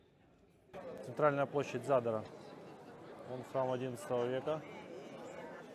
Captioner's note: sounds of the crowd